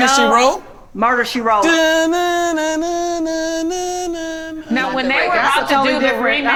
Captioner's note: humming tune